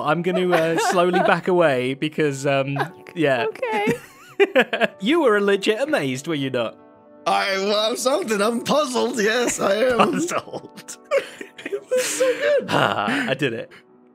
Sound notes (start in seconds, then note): 2.7 laughs; 9.5 laughs